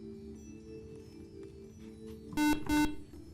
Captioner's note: beeping